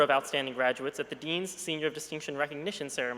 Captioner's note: none